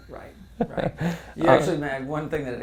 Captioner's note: laugh